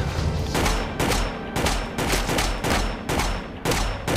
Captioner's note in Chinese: 槍聲